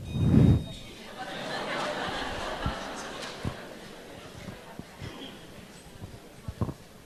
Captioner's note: audience Laughter